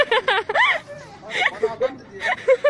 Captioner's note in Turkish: Kız Gülüyor